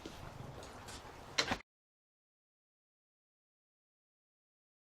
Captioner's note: hinge squeaking; clanking